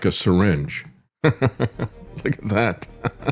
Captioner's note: laughs